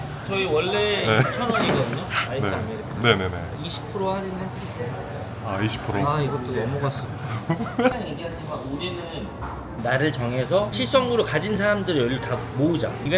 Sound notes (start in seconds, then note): 7.3 chuckles